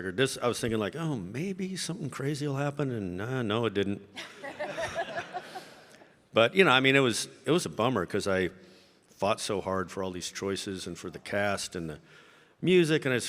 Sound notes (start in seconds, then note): 4.2 audience laughing